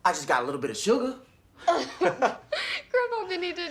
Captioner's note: both laughing